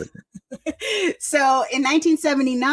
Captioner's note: laughter